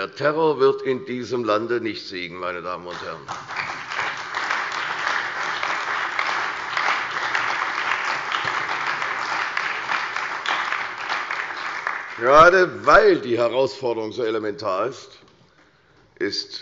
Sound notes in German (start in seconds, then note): 2.8 Beifall bei der CDU, dem BÜNDNIS 90/DIE GRÜNEN und der SPD